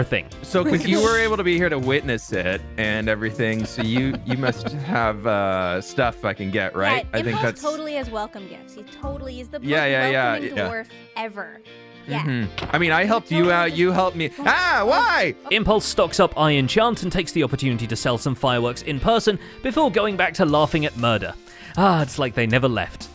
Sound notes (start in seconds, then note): 3.4 chuckles; 12.6 smacks